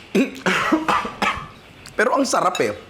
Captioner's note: chokes